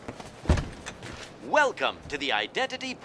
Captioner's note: automated Voice